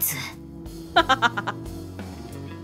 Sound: chuckles

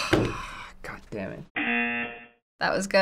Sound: buzzer

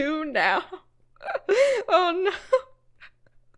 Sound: laughs

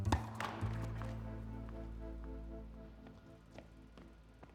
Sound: net slapping

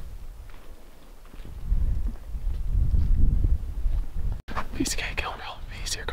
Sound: wind blowing

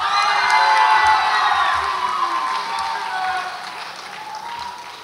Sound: audience applauds and cheers

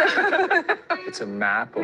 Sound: laugh

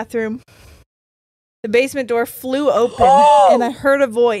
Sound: shrieks

